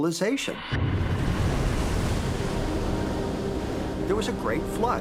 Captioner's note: waves crashing